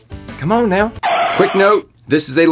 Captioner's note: tires screeching